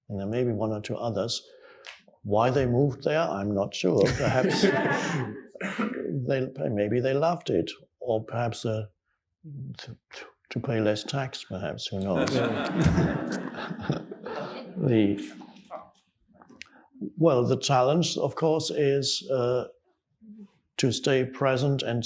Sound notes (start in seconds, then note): 4.0 audience laughing; 12.1 audience and Eckhart Tolle laughing